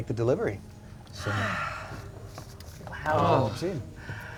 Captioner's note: sighs